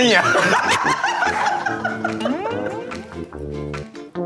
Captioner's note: hahahahahahahaha